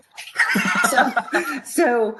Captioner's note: laughs